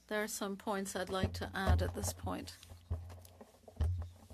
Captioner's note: speaking French